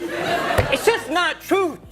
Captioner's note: audience laughs